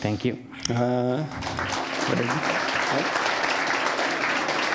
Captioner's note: applause